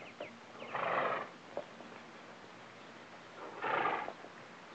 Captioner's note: birds chirping; horse snorts